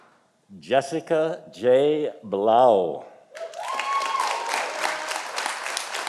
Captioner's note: audience applauding